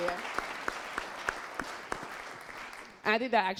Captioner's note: applause